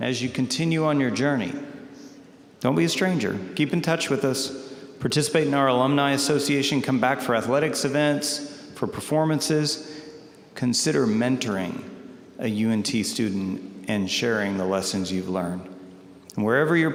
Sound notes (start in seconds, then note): none